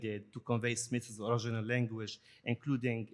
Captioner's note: none